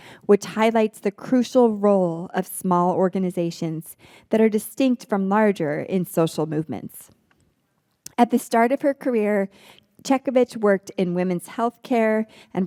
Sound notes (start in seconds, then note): none